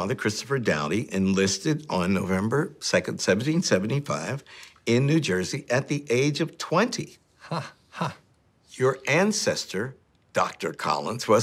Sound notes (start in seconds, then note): 7.4 laughing